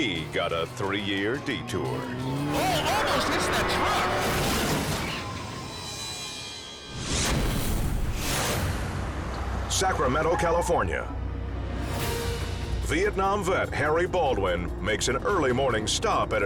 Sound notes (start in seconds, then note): 4.9 car crushes; 7.5 squashing sound